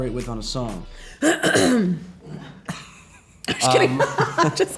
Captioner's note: clearing throat